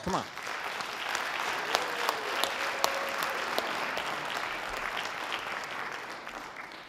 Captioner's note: audience applause; audience cheering